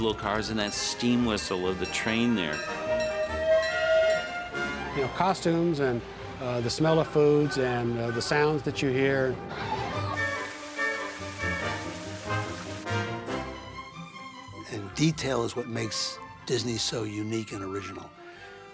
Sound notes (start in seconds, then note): 2.6 whistle blows